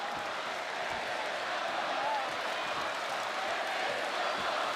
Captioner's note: applause